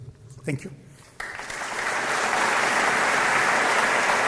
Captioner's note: applause